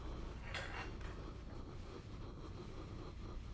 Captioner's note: iron hissing